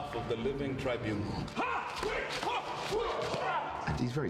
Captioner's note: grunting